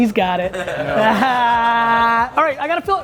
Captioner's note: group laughter